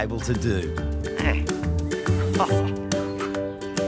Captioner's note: chuckles